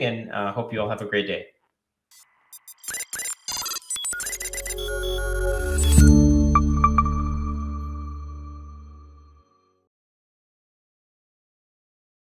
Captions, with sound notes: and I hope you all have a great day. (electronic beeping) (bright music)